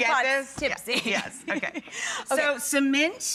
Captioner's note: laughing